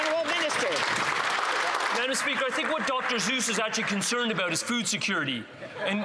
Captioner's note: some Applause